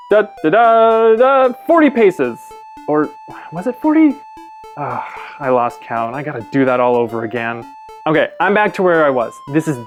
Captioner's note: sigh